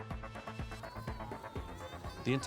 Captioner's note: children yelling